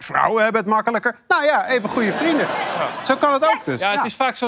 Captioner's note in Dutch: gelach